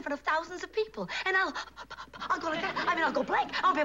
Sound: gasps

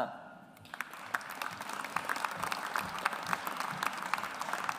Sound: audience applauds

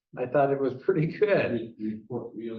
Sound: chuckle

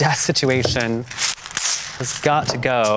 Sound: paper ripping

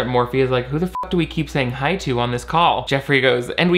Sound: beep

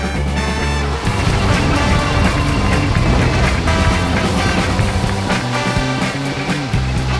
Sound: crowd cheering; upbeat music

